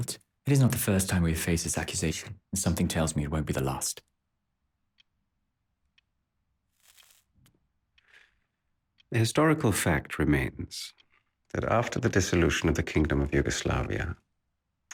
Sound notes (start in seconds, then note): 7.2 cigarette hisses